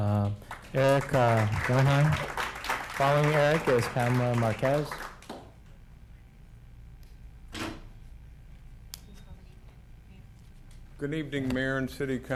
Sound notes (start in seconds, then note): 4.4 applauding